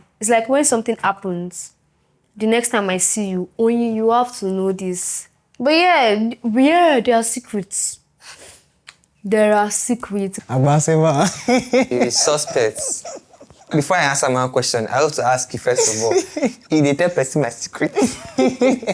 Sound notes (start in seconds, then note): 15.5 laughs; 17.8 laughs